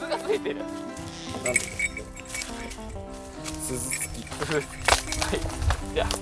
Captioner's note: laughs